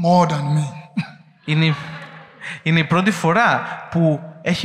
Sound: laughing

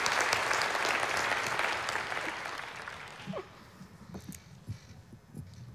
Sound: applause

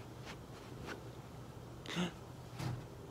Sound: tired

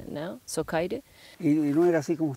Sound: in Spanish

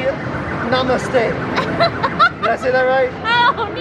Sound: laughs

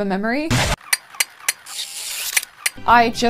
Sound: monkey brain noises

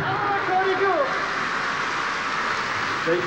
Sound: applause

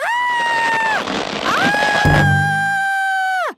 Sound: screaming

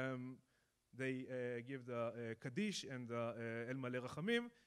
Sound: speaking in foreign language

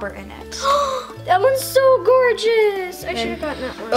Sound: gasp

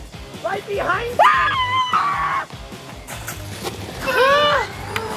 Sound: screaming

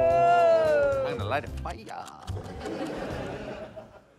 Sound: laughter

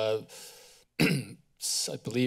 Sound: clears throat

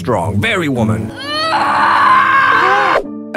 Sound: screaming

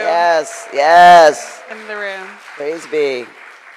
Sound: crowd applauds

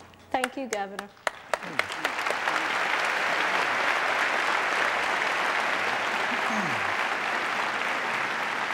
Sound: applause

